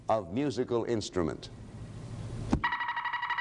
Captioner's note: alarm sounds